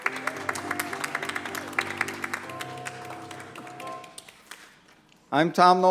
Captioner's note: applause